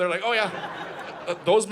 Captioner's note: audience laughing